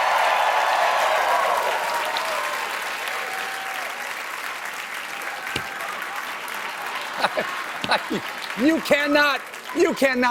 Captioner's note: cheers and applause